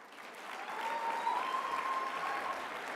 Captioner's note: applause